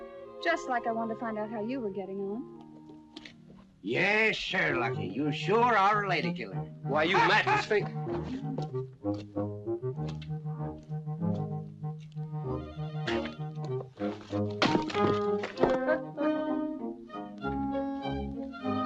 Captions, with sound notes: Just like I wanted to find out how you were getting on. Yeah, sure, Lucky, you sure are a lady killer. - Why, you windbag! - [ GUFFAWS ] [ PLAYFUL MUSIC ]